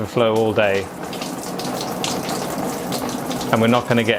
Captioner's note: water dripping